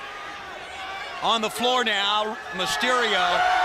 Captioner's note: crowd chatter